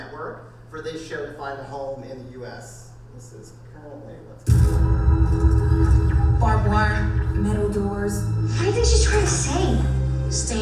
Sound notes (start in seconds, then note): 4.4 suspenseful music; 6.5 voiceover; 8.7 voiceover